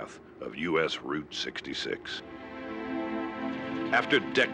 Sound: engine roaring

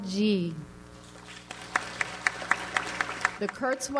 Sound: audience applauds

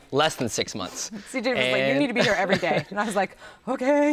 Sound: chuckles

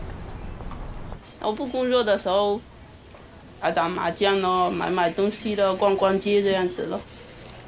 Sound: speaking Mandarin

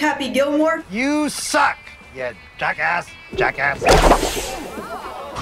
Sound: sound of golf club swinging

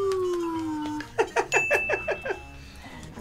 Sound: laughs

